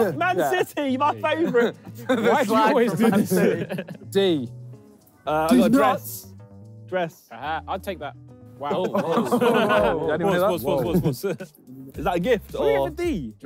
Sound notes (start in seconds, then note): 8.7 all laughing